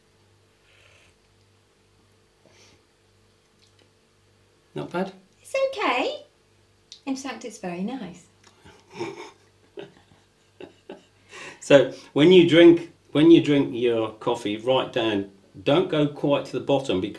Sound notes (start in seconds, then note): 0.3 sipping coffee; 8.6 laughs